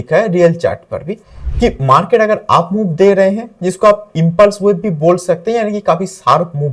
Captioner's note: impulse waves